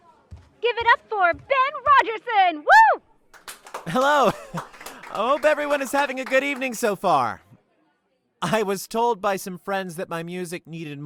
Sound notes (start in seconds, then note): 3.3 claps